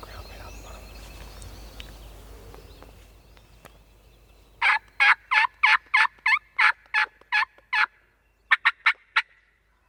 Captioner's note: whispering